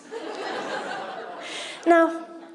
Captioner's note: audience laughter